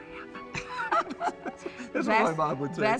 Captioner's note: both laugh